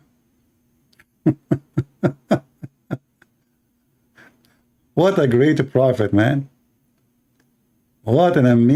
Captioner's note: Ketawa